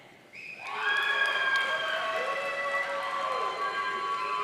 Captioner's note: audience cheering